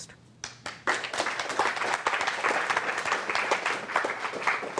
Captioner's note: applause